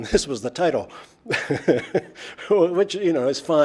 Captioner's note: laughs